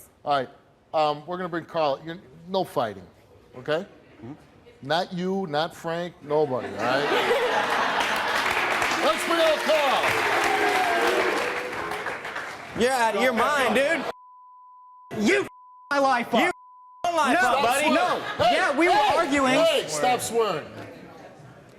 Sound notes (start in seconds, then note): 6.7 laughing; 7.5 audience clapping